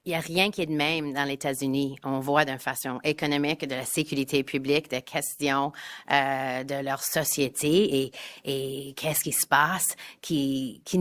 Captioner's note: speaking in French